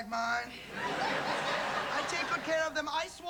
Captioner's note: laughter